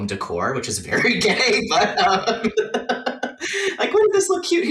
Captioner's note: laughs